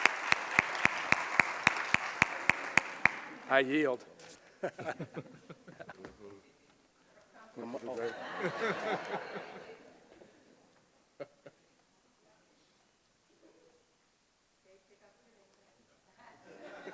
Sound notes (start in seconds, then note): 4.6 group laughs; 8.0 audience laughs; 16.4 audience laughs